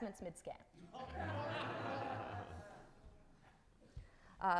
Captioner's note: audience laughing